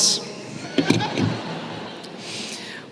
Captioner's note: laughter